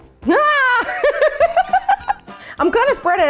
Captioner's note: laughing